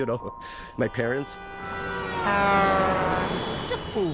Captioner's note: horn blaring